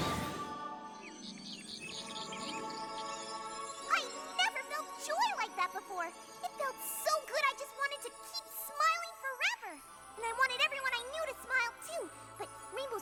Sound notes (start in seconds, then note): 1.6 animals chattering